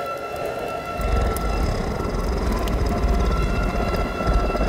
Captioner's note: demonic growl